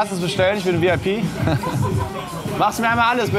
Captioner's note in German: lacht